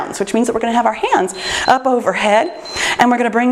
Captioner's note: timer beeps